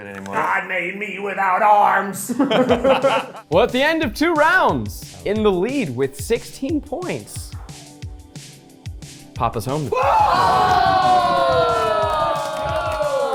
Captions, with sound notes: God made me without arms! - Well at the end of two rounds, in the lead with 16 points, papa's home. (people cheering)